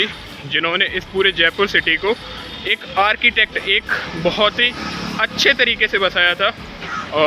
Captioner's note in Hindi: नाक से की जाने वाली आवाज़